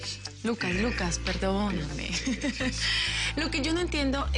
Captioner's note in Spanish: Ríe